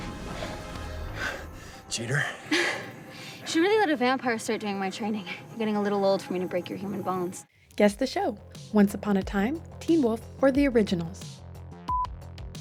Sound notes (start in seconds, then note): 2.0 laughs